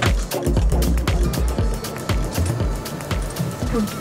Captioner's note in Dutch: start motor